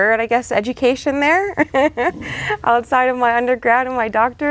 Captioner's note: laughs